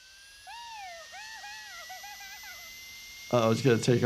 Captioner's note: Cub laughs